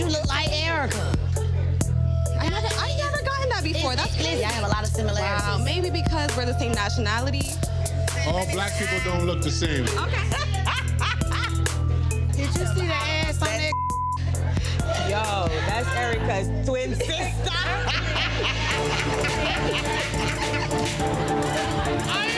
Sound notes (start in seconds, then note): 9.8 laughing; 13.6 beep; 16.8 laughing; 17.6 dramatic music